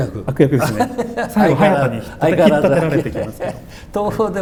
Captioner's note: laughs